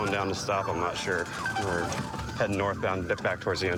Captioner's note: sirens blaring